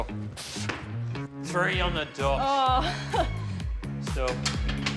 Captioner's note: chuckles